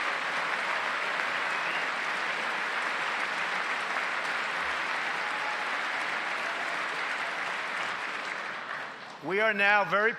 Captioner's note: applause